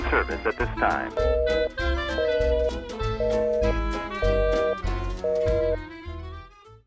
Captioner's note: busy tone